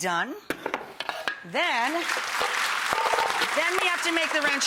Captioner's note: audience clapping